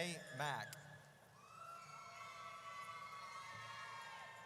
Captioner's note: audience cheers